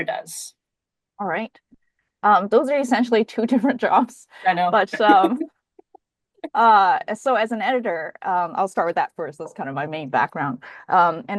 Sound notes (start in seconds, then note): 4.9 laughs